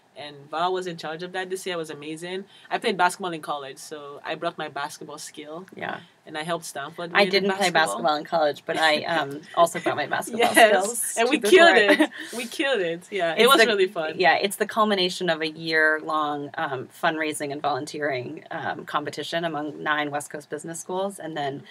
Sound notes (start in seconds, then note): 9.8 laugh